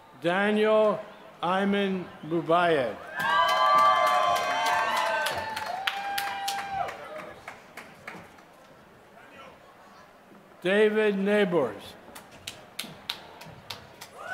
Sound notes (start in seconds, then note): 3.2 applause; 12.7 applause